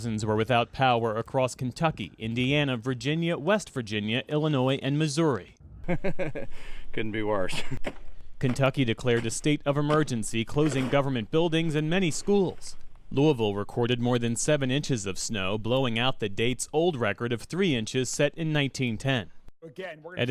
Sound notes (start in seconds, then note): 5.7 laughter